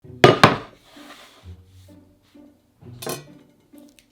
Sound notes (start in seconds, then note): 0.4 board sliding; 2.0 quirky music plays in background throughout video